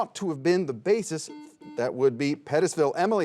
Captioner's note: buzzer beeps